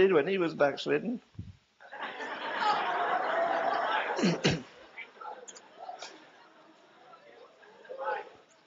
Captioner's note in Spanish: risas